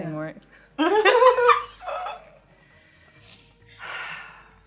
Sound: laughs

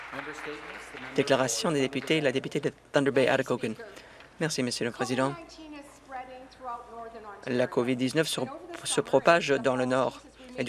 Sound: some Applause

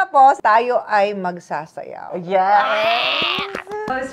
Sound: claps

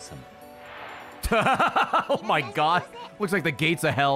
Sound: laughs

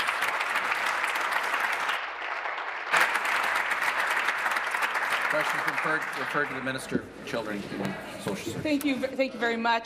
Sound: applause

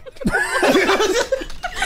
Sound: laughter

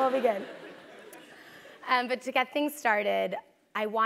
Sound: laugh

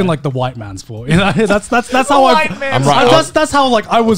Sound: laughing

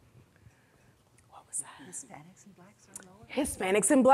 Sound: whispering

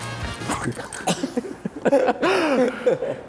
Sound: laughing

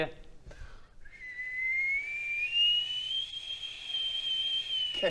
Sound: shrill whistle

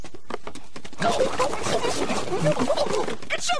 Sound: nom nom nom nom nom nom nom nom nom nom nom

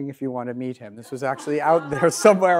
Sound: audience laughs

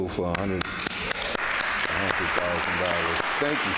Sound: audience applauding

